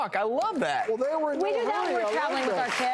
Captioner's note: applause